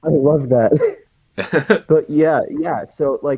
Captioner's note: laughs